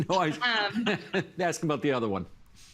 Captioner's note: laughing